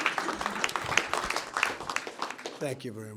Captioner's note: applause